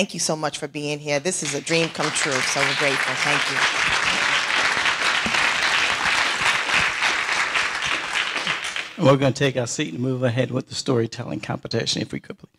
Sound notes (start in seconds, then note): 5.0 audience applauding